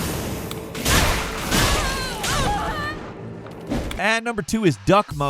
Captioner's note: character screams